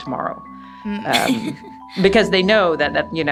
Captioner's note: laughs